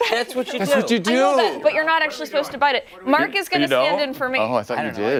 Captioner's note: laughter